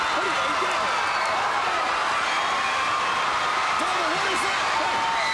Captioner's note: audience cheering